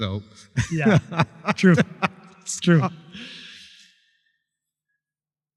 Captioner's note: laughter